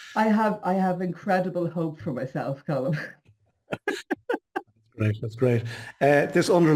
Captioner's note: laughs